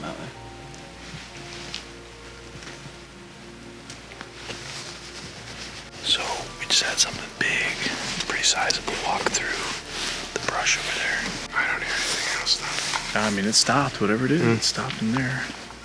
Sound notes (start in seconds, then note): 6.1 whispers